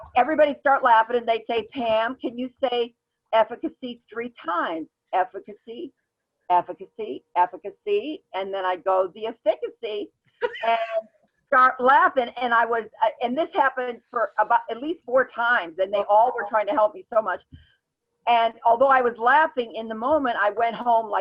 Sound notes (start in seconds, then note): 10.4 laughs